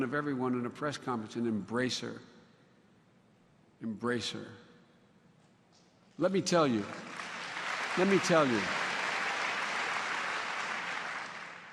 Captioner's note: applause